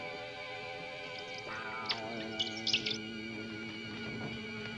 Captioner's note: rats squeaking